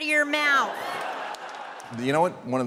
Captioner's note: audience laughing